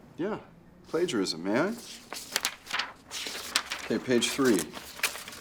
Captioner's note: paper rustling